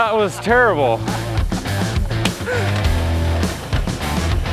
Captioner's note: upbeat music; laughs; upbeat music